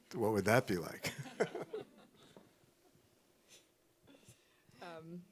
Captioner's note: laughing